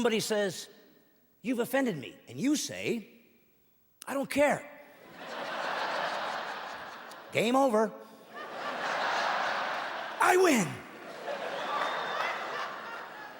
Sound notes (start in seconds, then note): 5.6 laughing